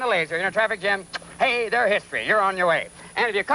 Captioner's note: kissing